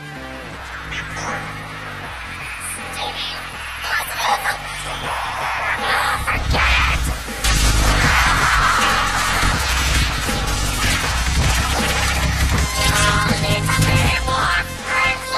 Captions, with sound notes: They're tearing me apart! Stay positive. Come on! Oh, forget it! [YELLING] You alI need to be more friendly!